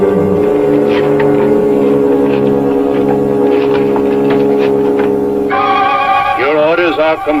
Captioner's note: rattling